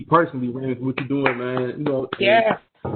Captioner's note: clapping